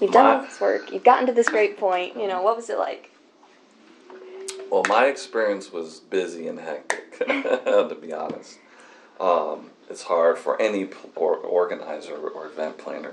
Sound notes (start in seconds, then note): 6.8 laughs